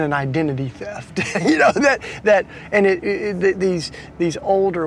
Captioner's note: laughing